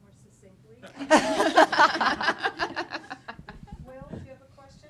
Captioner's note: laughter